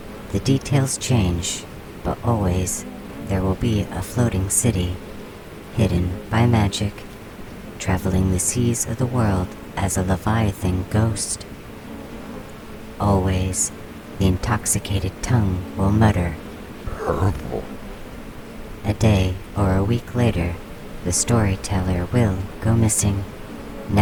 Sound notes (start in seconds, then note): 16.6 male voice, drunken, slurring